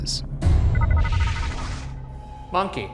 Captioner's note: device beeping